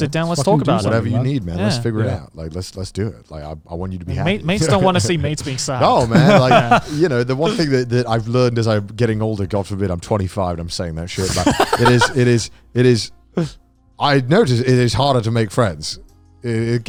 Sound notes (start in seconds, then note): 4.3 chuckles; 6.1 laughs; 11.2 laughs